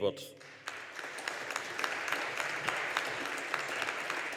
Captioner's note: audience applauding